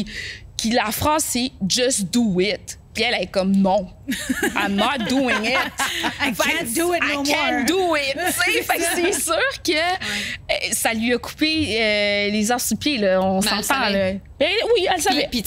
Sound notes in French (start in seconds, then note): 4.0 rires